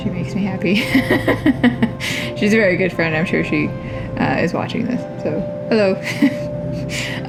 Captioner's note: laugh